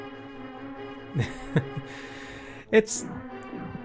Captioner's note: laughing